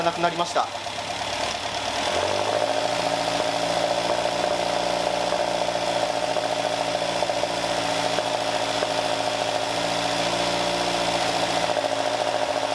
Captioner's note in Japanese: エンジン音